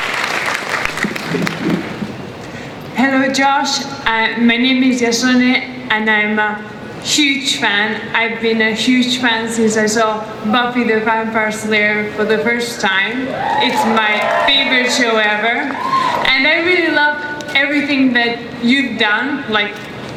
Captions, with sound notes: - [Voiceover] Hello, Joss. My name is Essonne and I'm a huge fan. I've been a huge fan since I saw Buffy the Vampire Slayer for the first time. (crowd cheers) It's my favorite show ever. And I really love everything that you've done,